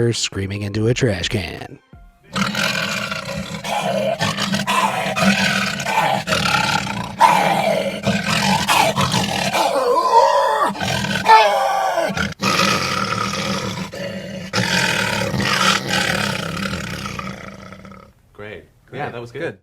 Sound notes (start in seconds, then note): 2.3 roars